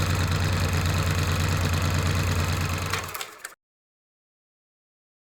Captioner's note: car engine rumbling; film projector ticking